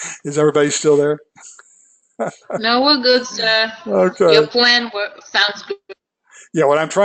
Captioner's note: laugh